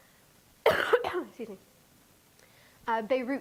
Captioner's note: coughing